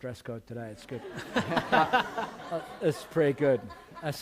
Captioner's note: laughter